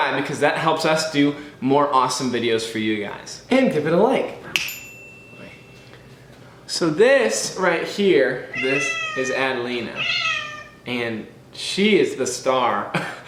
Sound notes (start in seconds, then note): 4.5 snap